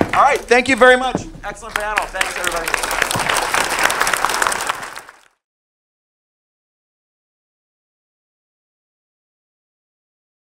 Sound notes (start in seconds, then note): 4.3 all clapping